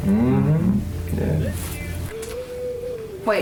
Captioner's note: mumbles of agreement